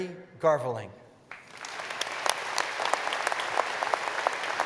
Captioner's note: applause